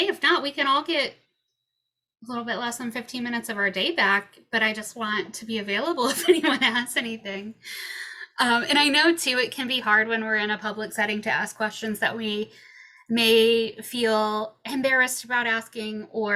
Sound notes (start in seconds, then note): 6.1 chuckles